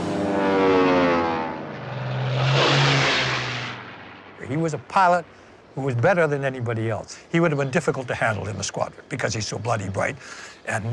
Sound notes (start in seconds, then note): 0.0 aircraft engine roars